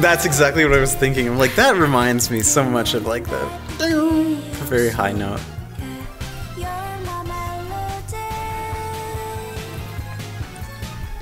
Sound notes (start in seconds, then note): 3.7 mimics guitar sounds